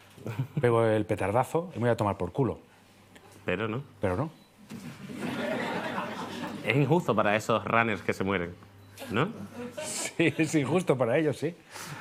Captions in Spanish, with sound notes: pego el petardazo y me voy a tomar por culo. Pero... Pero no. (Risas) Es injusto para eso "runners" que se mueren. Sí, sí, es injusto para ellos, sí.